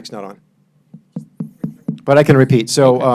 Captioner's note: finger taps mic